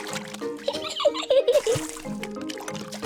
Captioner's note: giggles